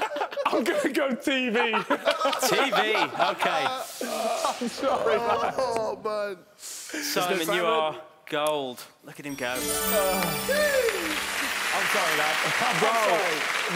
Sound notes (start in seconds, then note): 9.3 chiming; 11.3 applauding